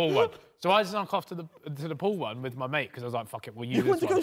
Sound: men laughing

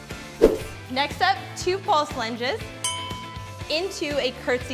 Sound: bell chimes

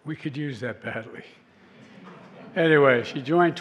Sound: laughter

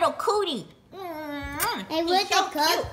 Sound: kisses

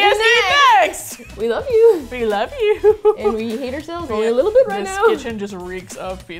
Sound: laughing

